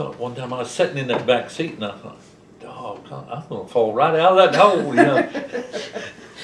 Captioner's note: laughter